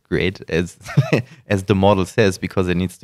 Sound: laughter

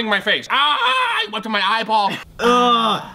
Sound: yells

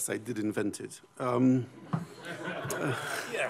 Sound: laughter

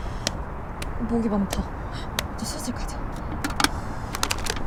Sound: slapping the skin

